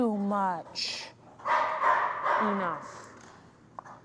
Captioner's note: dog barking